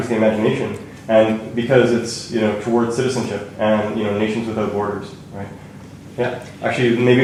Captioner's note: none